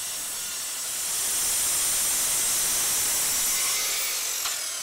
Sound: grinding metal

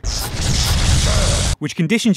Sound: teleport noise

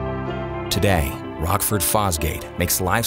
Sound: voiceover

